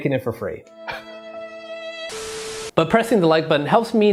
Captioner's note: melancholy music; sobbing